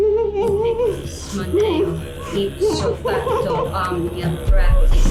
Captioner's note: chanting in foreign language